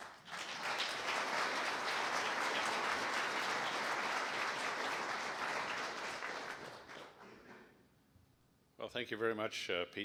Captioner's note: applause